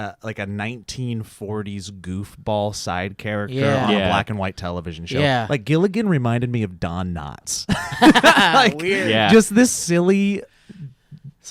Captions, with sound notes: like a, 1940's goofball side character... - Yeah. - Yeah. - On a black and white television show. - Yeah. - Like Gilligan reminded me of Don Knotts. (laughing) - Weird! - Just this silly...